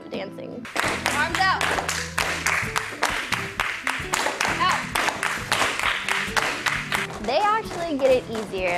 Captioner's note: clapping